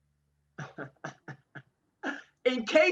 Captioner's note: chuckles